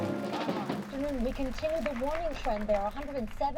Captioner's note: radio